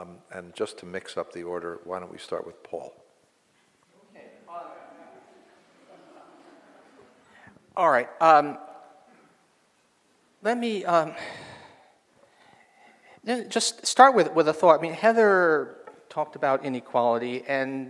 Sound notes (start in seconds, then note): 5.2 audience chuckles